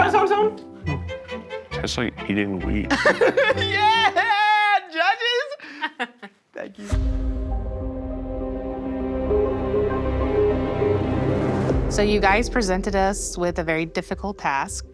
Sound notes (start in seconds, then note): 2.8 Zach laughing; 7.0 dramatic synth music